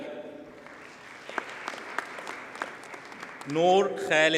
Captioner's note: audience applauds